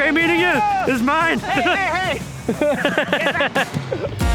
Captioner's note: laughs